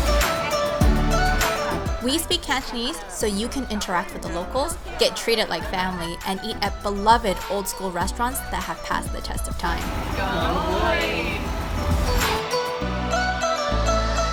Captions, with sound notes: We speak Cantonese so you can interact with the locals, get treated like family, and eat at beloved old-school restaurants that have passed the test of time. Gon bui! [Cheers]